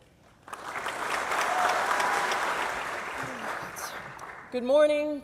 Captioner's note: audience applause